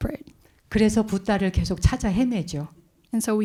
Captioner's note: speaking in Korean